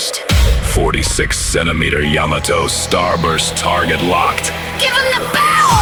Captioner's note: ship computer, robotic voice